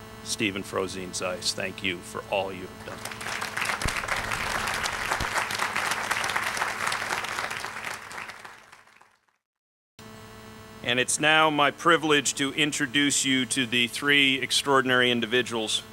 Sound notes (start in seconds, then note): 2.8 applause